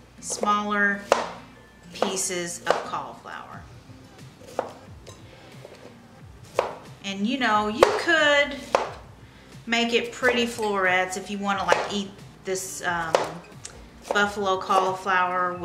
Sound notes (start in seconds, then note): 4.5 knife chopping